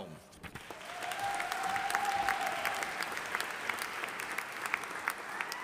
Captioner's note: audience applauding